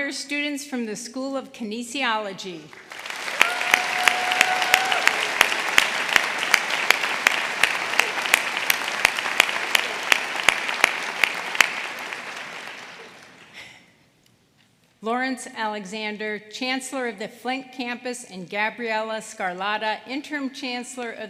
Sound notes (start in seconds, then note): 5.2 applause